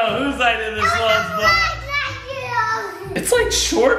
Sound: shouting incoherently

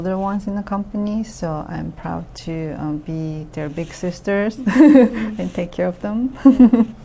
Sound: laughs

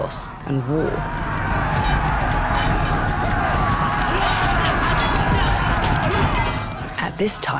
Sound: warriors shouting; weapons clashing

